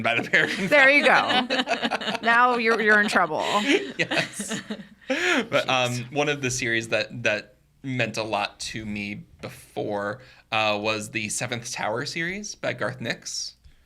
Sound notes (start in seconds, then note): 0.0 podcasters laughing